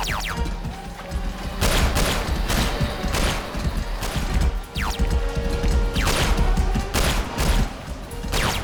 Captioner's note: gunshot